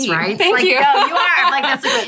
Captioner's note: laughing